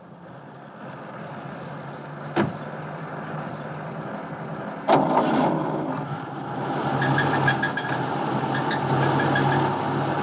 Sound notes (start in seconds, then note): 4.9 engine starts; 8.4 transmission rattling and squeaking